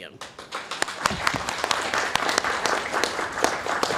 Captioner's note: applause